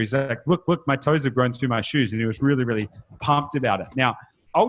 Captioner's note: none